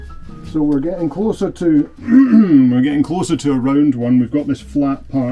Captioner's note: ahem